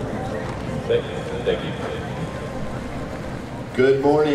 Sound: background chatter

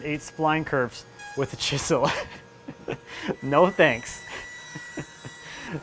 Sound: laughing

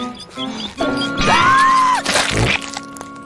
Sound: panting; screams

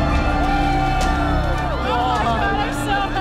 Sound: cheering

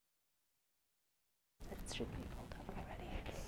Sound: whispering

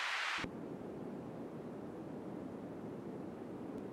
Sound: sound whirring

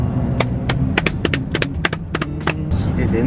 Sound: thigh clapping

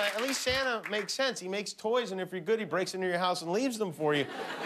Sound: applause

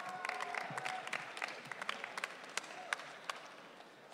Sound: audience cheering

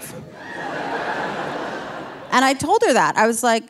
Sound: audience laughing

